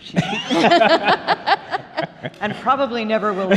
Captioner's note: laughing